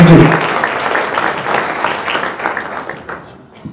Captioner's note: applause